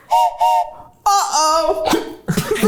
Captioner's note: everyone laughs; whistle blows; laughs